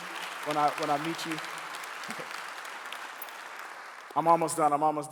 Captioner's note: clapping